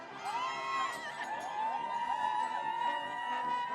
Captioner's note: cheering